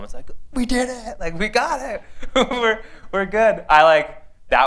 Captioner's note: laughter